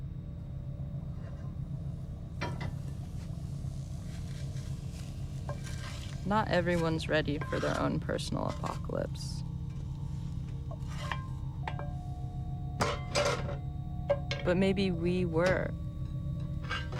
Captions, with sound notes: (plates clattering) - Not everyone's ready for their own personal apocalypse. (eerie music) But maybe we were.